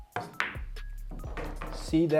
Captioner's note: upbeat music continues; ball bangs